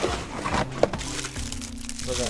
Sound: plastic crinkling

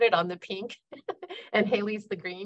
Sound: laughing

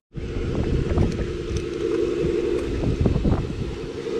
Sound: machine roars

